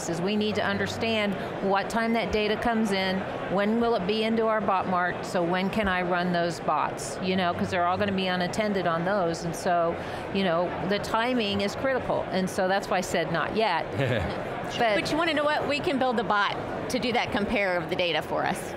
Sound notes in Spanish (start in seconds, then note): 13.9 se ríe